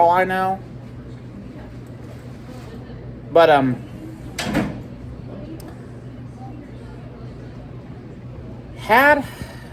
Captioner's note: door opens and closes from a distance